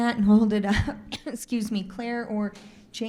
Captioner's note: coughs